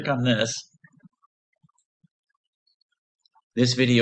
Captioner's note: pause